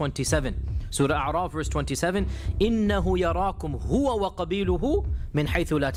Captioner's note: speaking in Arabic